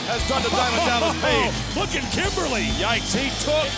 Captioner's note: laughs